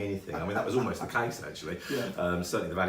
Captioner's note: laughing